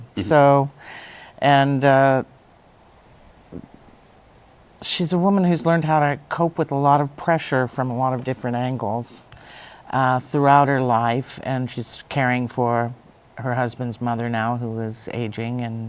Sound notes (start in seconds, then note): none